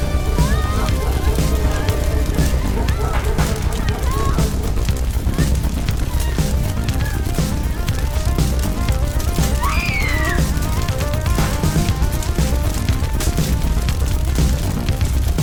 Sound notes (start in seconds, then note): 9.6 woman screams